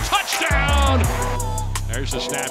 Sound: crowd cheering

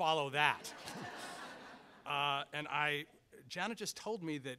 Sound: audience laughs

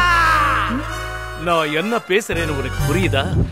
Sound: speaking gibberish

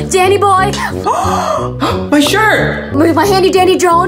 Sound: gasp

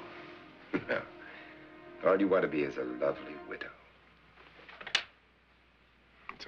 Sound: laughs

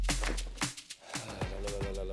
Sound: sighs

